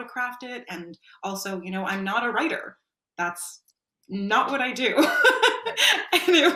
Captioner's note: laughs